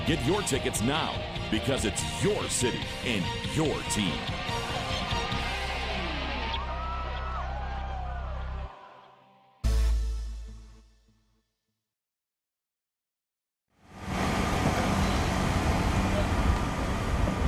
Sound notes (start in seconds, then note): 3.6 cheering